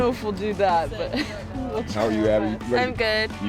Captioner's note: woman chuckling